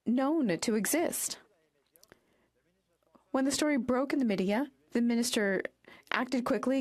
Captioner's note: speaking French